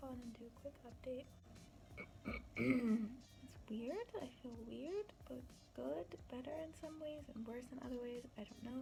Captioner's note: clears throat